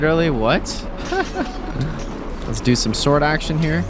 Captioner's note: laughs